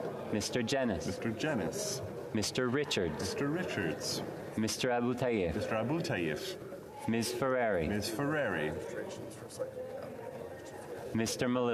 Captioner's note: speaking French